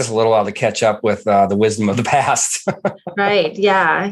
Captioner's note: laughs